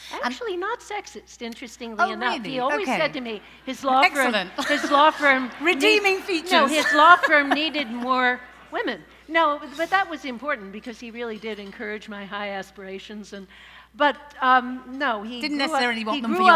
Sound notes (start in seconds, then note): 4.0 laughs; 4.4 laughter; 6.4 laughs